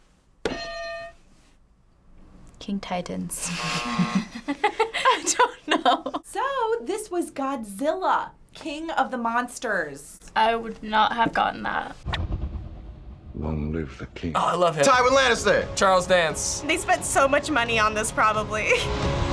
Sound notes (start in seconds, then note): 0.5 hitting bell; 3.4 buzzer; 3.6 laughs; 3.8 chuckles